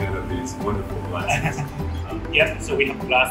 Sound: chuckle

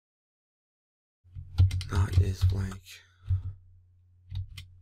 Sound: typing; typing

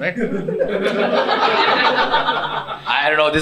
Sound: laughter from unbelievers

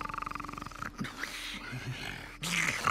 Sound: coughs

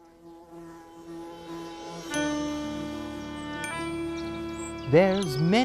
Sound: buzzing; calm music

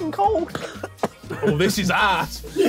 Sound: coughing

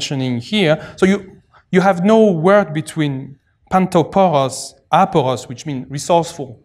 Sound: non-english

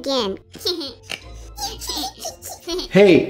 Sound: giggle

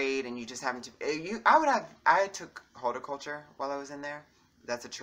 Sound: breathe

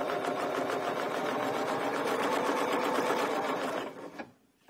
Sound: sewing machine whirring

